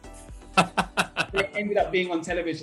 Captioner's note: laughter